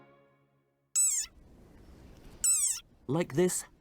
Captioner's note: frog squeaks